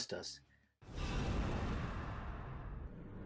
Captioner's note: whoosh